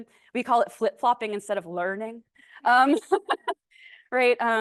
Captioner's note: laughs